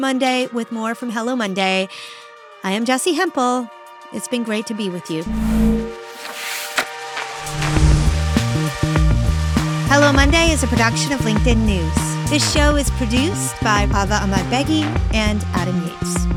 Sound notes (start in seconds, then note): 5.3 graphic whooshing; 5.3 upbeat music